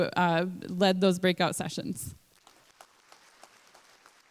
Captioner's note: applause